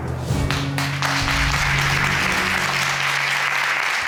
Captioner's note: crowd clapping